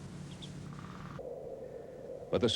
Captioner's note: harsh wind blowing